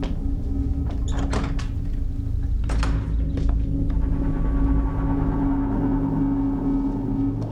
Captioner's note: tense music; door rattling